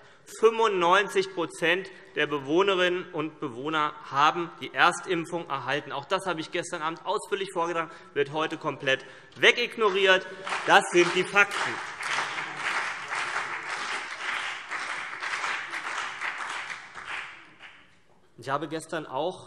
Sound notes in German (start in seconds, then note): 12.1 Beifall CDU und BÜNDNIS 90/DIE GRÜNEN